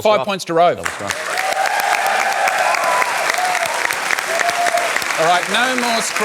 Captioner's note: cheering, applause